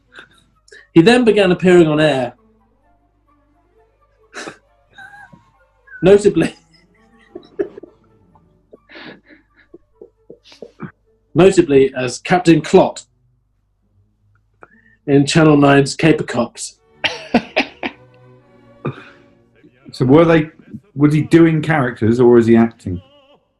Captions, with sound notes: "He then began appearing on air..." [GIGGLING] "...notably..." [GIGGLING] "...notably as Captain Clot... ...in Channel Nine's Kaper Kops." [CHUCKLING] So were they... was he doing characters or was he acting?